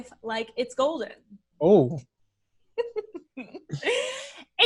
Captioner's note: laughs